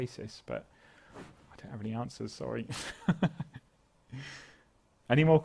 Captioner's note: laugh